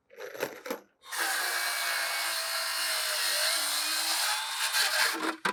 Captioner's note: machine drilling